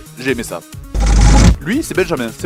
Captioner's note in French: bruitage transition de "Bref"